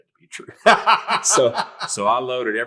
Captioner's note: laughing